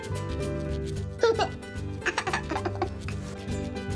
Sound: giggling

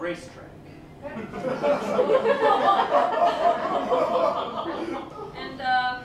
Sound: laughter

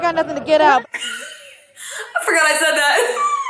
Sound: laughs

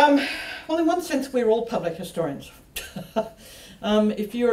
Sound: laughs

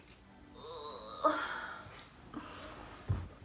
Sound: grunting

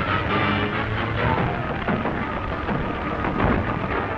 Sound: sounds of struggle

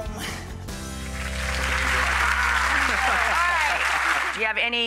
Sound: audience claps

